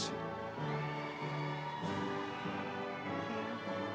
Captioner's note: audience cheering